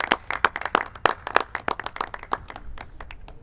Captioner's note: clapping